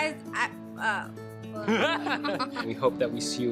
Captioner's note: laughs